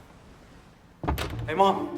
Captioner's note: door opens